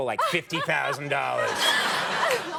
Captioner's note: Amy laughing; audience laughing